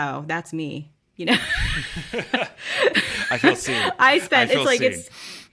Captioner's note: laughter